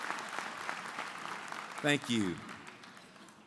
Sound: applause

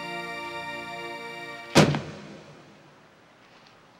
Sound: slam echoing

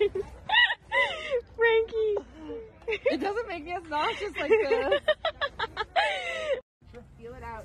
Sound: laughter

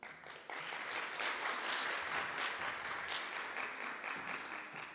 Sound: audience applause

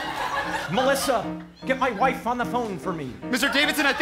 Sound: speaking

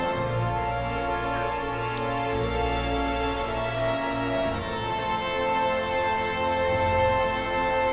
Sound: somber music; drones whirring

